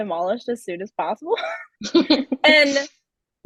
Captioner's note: chuckles